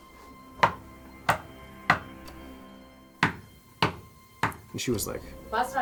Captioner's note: bang bang bang